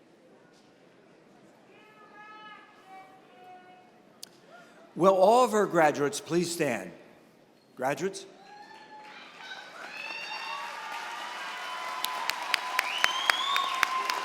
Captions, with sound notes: Will all of our graduates please stand. Graduates? [CHEERING AND APPLAUSE]